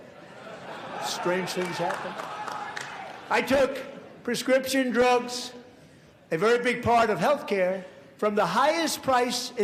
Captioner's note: applause